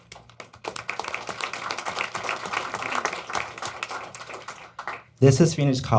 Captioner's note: applause